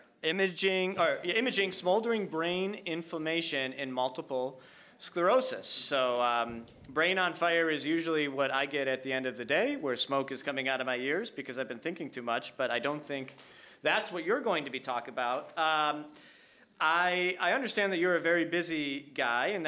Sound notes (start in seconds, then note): none